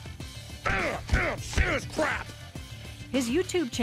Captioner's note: grunting